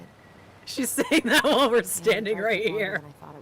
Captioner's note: laughs